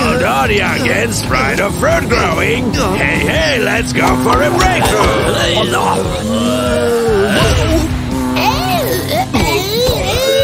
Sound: screams of fright; some wheezing screams of downed zombies; some more screams of downed zombies

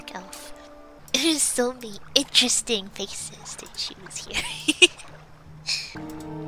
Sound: laughs

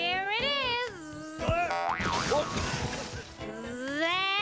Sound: buzzing; thud; crash

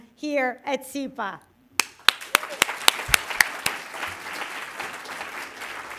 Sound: applause

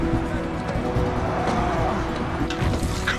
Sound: groaning

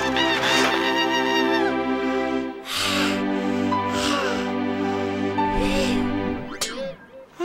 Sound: Flaky scream and takes a deep breath

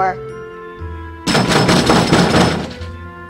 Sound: knocking

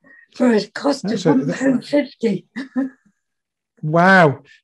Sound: chuckles

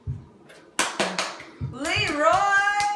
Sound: clapping

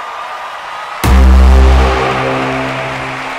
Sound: all cheering

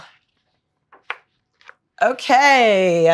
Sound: book page turns

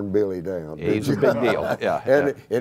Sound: laughter

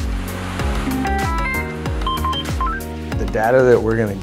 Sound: panel beeping

